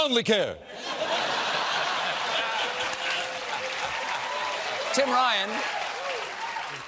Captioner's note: laughter